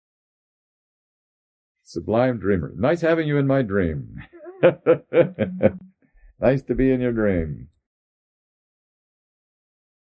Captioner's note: laughs